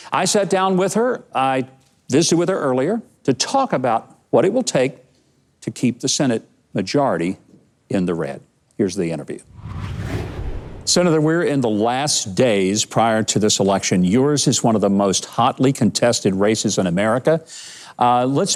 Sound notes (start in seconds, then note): 9.4 digital whooshing